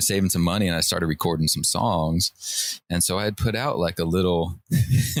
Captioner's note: laughter